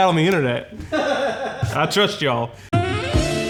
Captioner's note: crew member laughing; sensual music